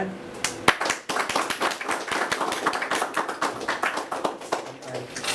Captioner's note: applause